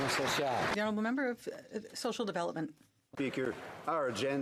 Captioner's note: some Applause